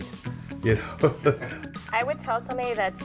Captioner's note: laughs